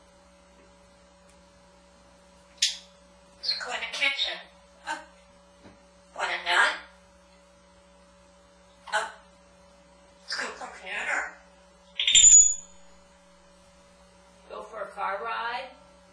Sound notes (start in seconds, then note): 12.0 squeak sound